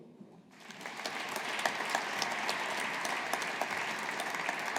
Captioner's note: audience applauding